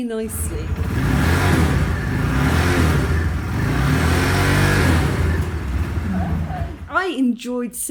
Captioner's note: revving engine